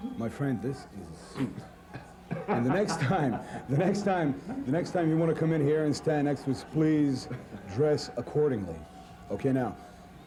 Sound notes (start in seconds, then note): 7.2 laughing